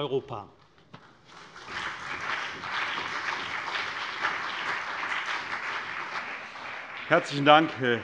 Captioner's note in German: Beifall CDU und BÜNDNIS 90/DIE GRÜNEN